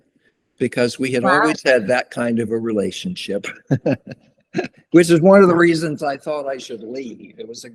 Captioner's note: laughter